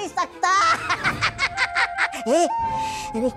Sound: giggles

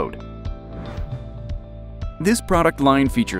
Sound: air whooshes

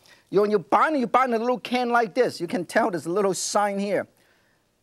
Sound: none

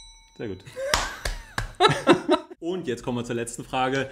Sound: laughs

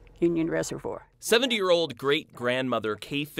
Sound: voiceover

